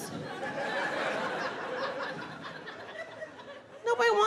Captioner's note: audience laughing